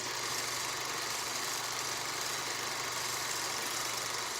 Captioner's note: projector whirring